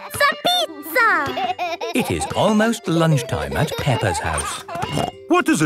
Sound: laughing

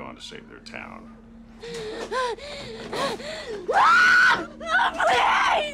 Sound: panting, screaming

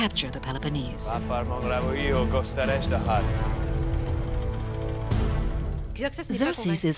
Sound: Xerxes speaking in foreign language

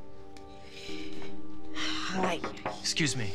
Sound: sighs; knock on door

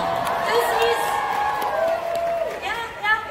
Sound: audience cheers

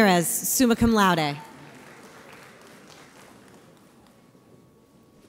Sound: audience applauds

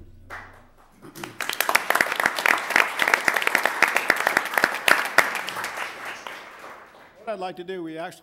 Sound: applause

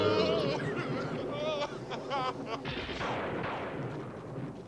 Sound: passenger crying out

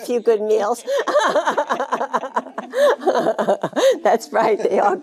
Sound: Jane laughing

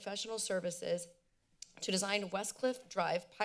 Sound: clicks tongue

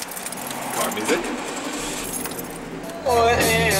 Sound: car engine revs

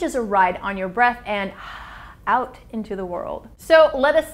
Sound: breathes forcefully

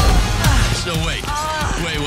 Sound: moans

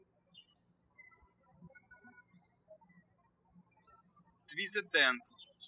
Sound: birds chirping

